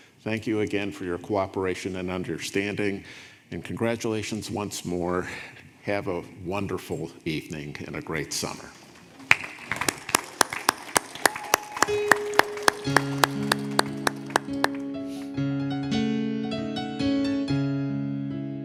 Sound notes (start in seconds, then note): 8.5 audience applauding; 11.5 slow piano music